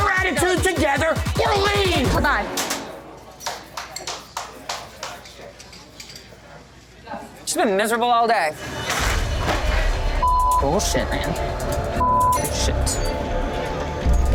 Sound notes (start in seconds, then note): 3.4 clapping; 8.6 crash